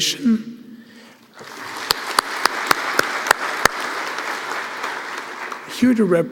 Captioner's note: applause